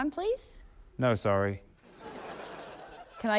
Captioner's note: laughter